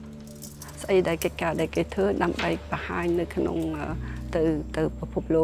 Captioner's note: speaking foreign language